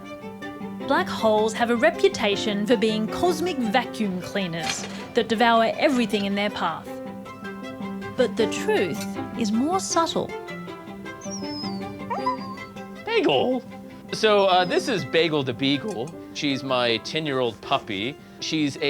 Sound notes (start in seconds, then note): 11.0 dog whines